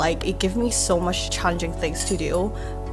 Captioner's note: none